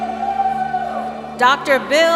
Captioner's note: cheering